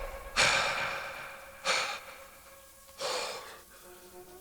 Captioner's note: gunshot bangs; man panting